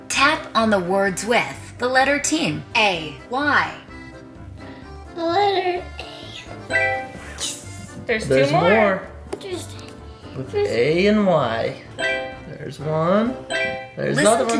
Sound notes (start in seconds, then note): 6.7 phone beeping; 12.0 phone beeping; 13.5 phone beeping